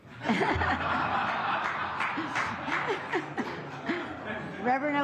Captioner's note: laughter